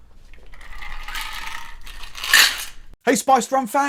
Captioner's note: ice pouring